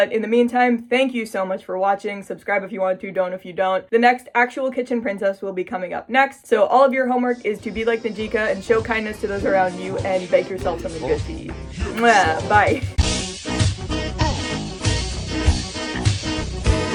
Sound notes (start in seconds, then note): 13.2 mwah; 13.9 funky Music